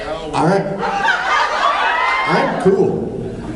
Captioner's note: cheers